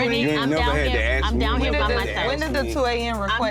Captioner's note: overlapping chatter